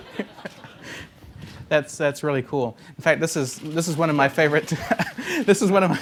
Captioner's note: laughing